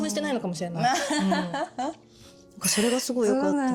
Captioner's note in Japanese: 笑い